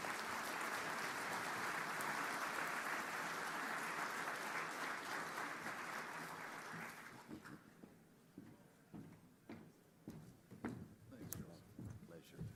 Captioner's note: applause